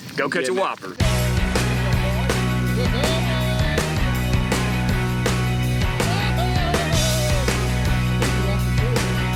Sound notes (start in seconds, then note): 1.0 country instrumental music; 1.5 cheering